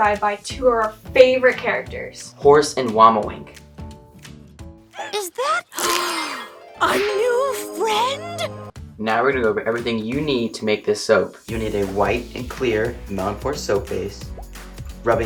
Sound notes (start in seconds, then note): 4.9 gasps